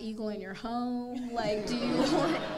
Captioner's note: audience laughing